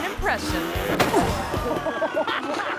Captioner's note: motorbike revving; body thumps; crowd laughing